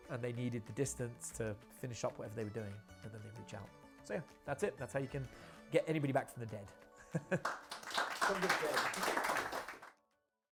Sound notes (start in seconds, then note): 7.0 chuckles; 7.4 audience claps